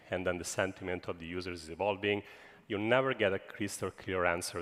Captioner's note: none